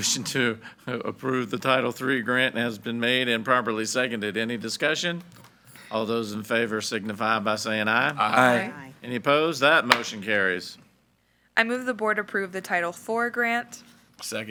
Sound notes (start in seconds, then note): 9.9 gavel bangs